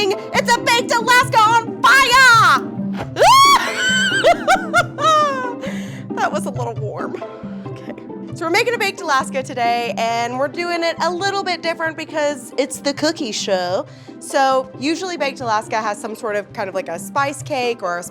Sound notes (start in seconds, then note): 3.1 screams; 3.2 laughs